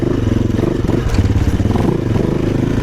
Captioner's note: wind